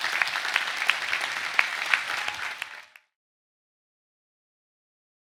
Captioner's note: students clapping